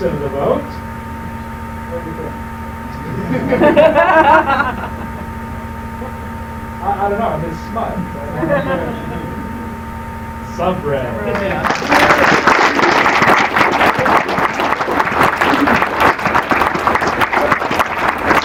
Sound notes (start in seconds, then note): 11.3 applause